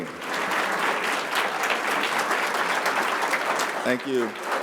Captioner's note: applause continues